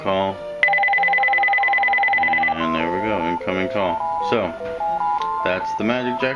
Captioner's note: home phone ringing